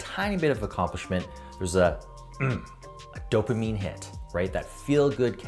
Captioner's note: grunting